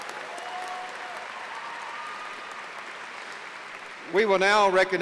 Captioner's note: applause